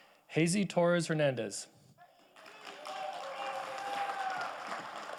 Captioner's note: audience applauding